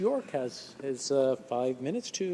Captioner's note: speaking French